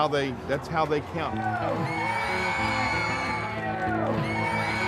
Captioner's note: audience cheering